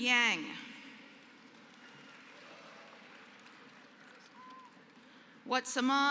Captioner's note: applause